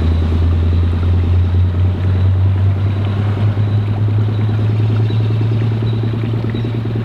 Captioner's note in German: Umgebungsmotorgeräusche und Vogelgezwitscher